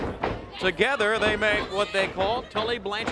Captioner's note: crowd chatter